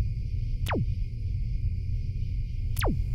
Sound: crickets, low rumbling

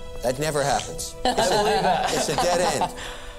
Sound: laughter

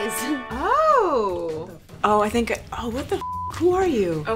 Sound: beep

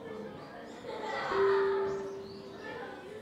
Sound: children laugh

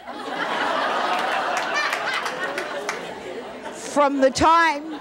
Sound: audience laughing

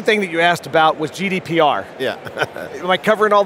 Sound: laughs

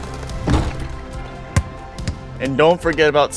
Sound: head thudding

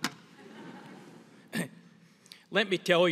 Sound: audience laughs

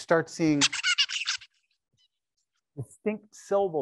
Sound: bird singing

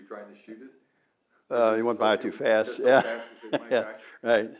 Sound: laughs

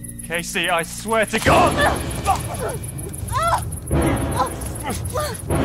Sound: struggled grunting

